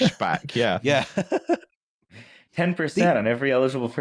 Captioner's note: laughs